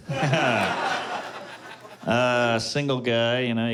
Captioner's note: laughter